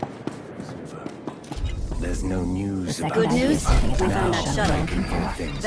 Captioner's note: different voices